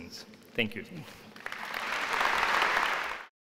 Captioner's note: applause